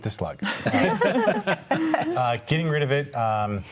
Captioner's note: group laughs